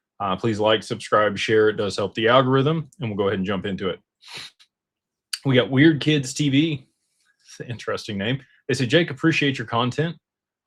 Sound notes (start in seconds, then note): 4.7 snorts